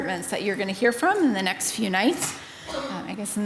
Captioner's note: attendee coughs